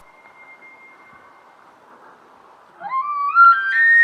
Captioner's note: distant Bull Elk Bugle; close Bull Elk Bugle